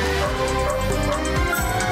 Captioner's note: rhythmic barking